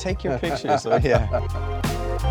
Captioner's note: man chuckling; upbeat electronica music